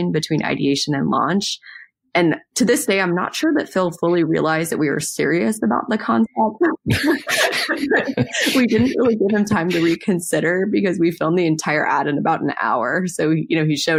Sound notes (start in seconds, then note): 6.8 both laugh